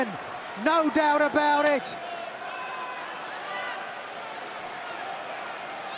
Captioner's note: crowd chatter